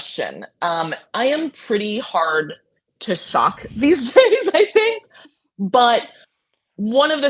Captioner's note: laughing